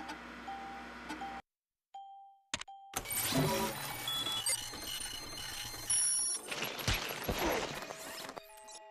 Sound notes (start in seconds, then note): 3.0 beeps accelerating